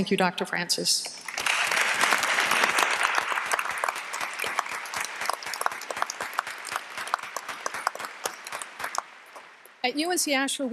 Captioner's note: applause